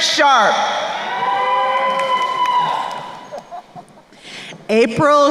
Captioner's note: crowd cheering and applauding